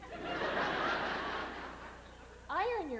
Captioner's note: laughter